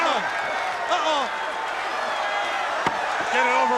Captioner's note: crowd cheering